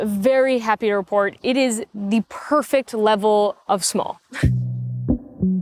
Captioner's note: chuckles; mellow music